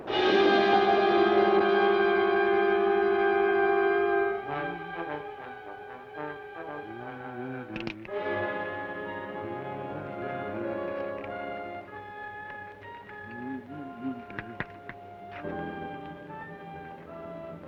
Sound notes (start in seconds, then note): 0.1 ominous orchestral music; 7.1 hums melodically; 7.7 gun cocks